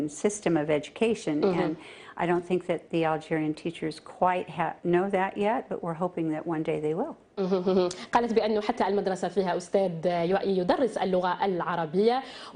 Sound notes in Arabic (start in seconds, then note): 0.0 تتحدث الإنجليزية